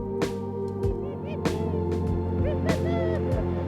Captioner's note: whooping laughter